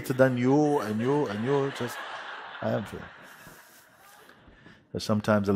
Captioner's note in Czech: Smích